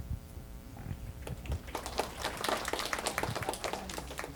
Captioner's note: applause